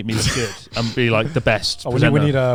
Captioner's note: laughs